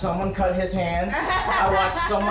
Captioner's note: laughing